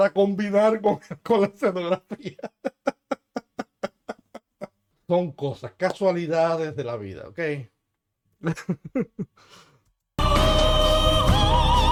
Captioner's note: laughs